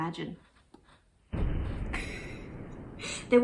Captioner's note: boom